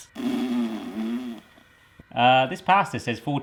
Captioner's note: exhales noisily